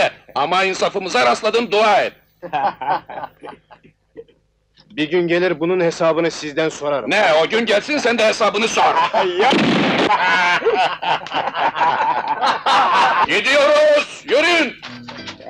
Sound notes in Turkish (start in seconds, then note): 9.1 Silah sesi, kahkahalar